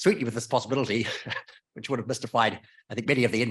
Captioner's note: chuckles